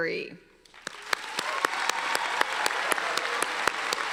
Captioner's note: applauding